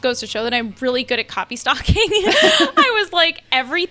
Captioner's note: laughs